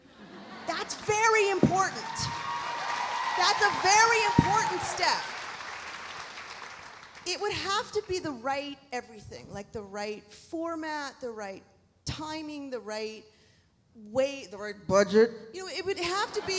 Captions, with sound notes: (audience laughs) That's very important. (audience cheering) That's a very important step. It would have to be the right everything, like the right format, the right timing, the right way, the right budget.